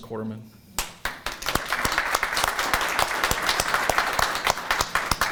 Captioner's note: audience applauding